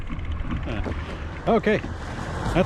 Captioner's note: car whooshing